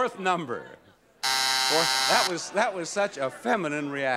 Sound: buzzer buzzes

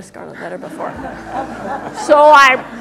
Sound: laughter

